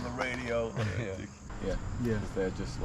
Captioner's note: chuckles